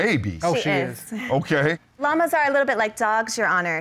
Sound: judge chuckles

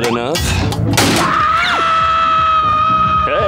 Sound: screaming

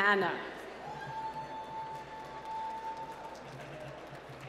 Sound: applause

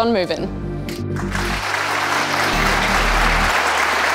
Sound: applause

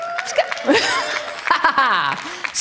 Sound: laugh

